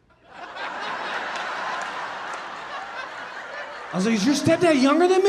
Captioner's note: audience laughing